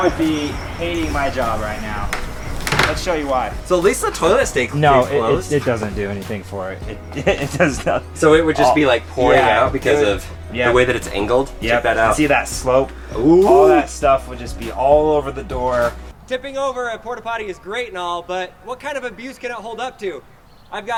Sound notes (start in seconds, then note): 6.8 chuckles